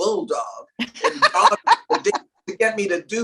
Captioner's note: laughs